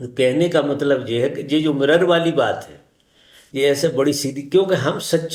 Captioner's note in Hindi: नाक से की जाने वाली आवाज़